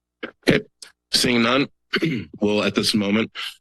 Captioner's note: clears throat